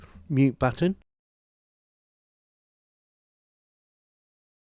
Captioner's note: silence